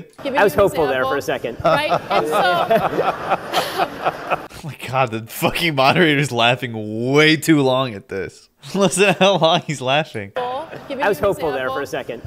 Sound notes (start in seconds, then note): 1.6 moderator laughs